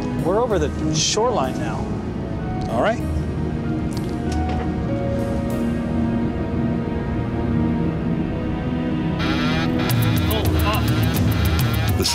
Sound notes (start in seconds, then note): 9.2 alarm sounding; 10.7 tense exciting music